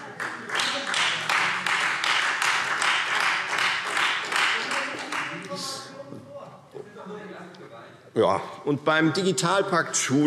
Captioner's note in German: Beifall